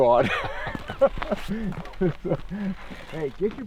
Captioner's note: laughing